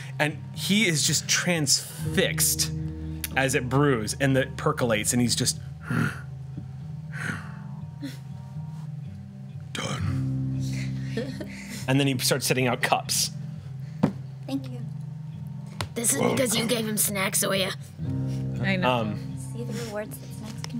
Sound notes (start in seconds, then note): 9.7 grunts